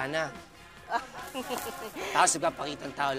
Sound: chuckles

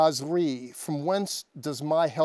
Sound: speaking Hebrew

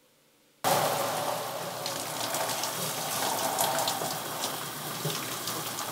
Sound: water running; dramatic music

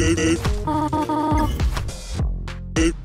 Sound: teleportation sound???

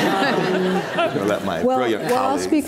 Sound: audience laughs

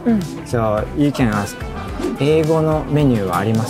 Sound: speaking in Japanese

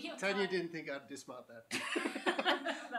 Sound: laughter

